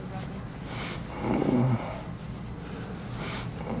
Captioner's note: grunting, Labored Breathing